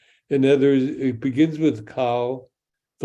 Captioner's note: speaks in Hebrew